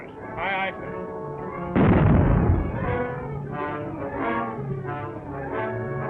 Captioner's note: cannons booming